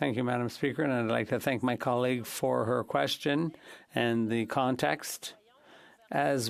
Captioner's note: speaking French